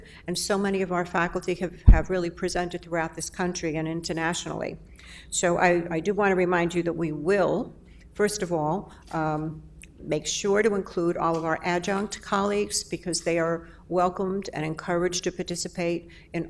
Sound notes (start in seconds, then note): none